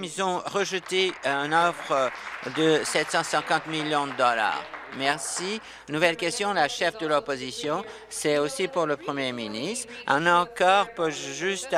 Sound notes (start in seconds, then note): 7.6 applause